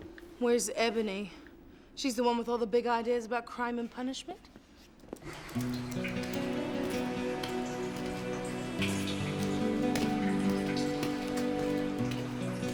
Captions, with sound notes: - Where's Ebony? She's the one with all the big ideas about crime and punishment. (water trickling) (gentle guitar music)